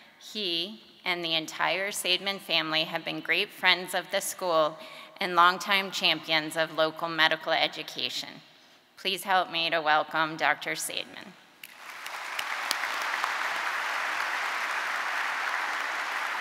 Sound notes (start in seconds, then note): 11.6 audience applauding